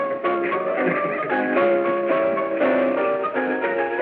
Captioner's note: laughing